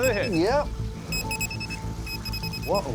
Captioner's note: rapid beeping